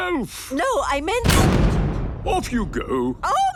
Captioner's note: blasts off